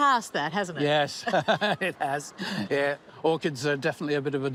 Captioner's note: laughs